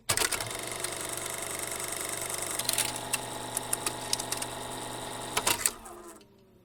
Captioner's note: film projector running